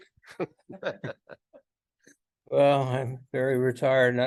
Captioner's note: panel laughs